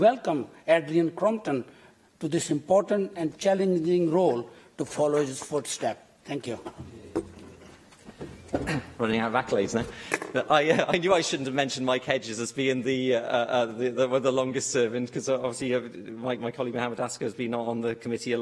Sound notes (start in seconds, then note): 10.6 laughter